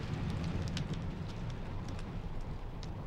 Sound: flames crackle

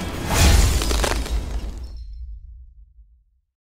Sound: shattering

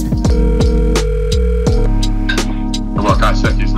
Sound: phone buzzing

